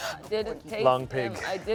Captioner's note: gasps